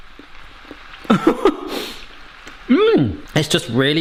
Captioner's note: chuckles